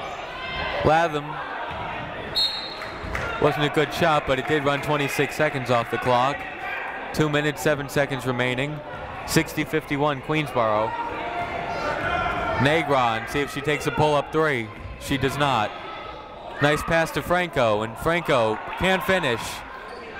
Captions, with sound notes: Latham. (whistle tweeting) Wasn't a good shot, but it did run 26 seconds off the clock. Two minutes seven seconds remaining. 60-51, Queensborough. Negron. See if she takes a pull up three. She does not. Nice pass to Franco and Franco can't finish.